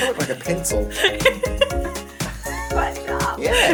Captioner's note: giggling